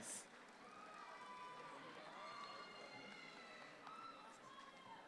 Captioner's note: audience applauds